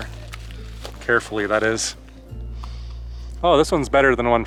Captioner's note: inhaling